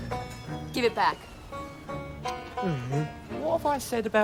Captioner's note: groans